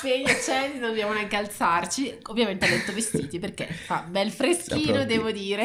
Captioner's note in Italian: risate